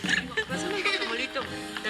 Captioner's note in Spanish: Risas